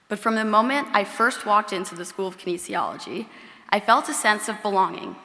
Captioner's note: none